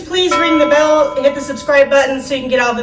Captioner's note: bell chiming